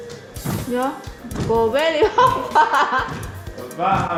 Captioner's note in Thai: หัวเราะ